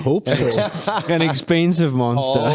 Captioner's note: laughing